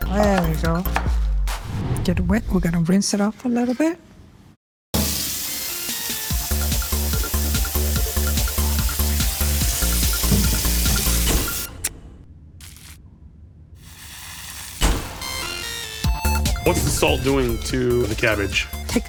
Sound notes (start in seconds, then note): 4.8 upbeat music; 5.4 water rushing